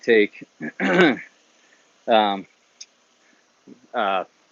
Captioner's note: clears throat